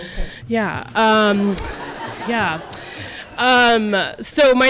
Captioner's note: audience laughing